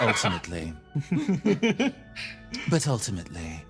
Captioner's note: laughs